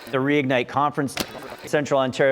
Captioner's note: fast forward tape rolling